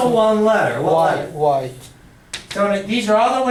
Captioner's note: voiceover